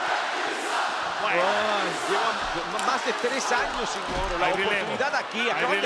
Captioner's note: applause